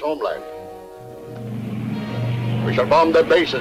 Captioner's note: plane engines revving